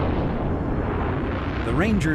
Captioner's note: rocket roaring